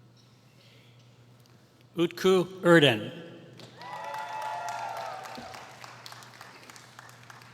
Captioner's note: applause